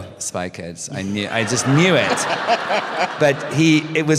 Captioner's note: laughter